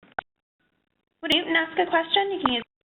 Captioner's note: voiceover